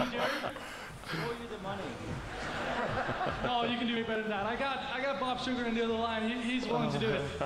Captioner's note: laughter